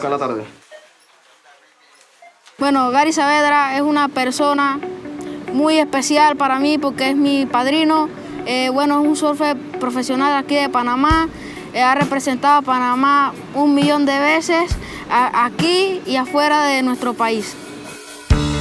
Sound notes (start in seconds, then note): 2.8 speaking Spanish